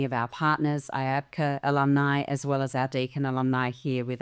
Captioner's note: none